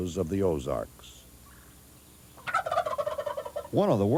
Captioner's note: turkey gobbling